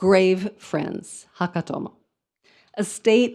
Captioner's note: speaks in foreign language